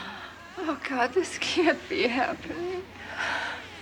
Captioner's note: shudders